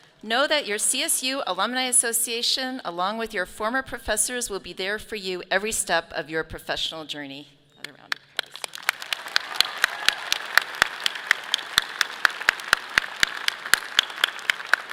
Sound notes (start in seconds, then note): 7.8 clapping; 9.9 audience clapping